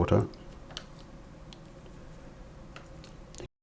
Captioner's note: silence